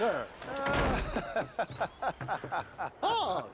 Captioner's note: laughing